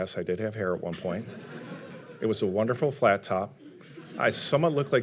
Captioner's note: audience laughing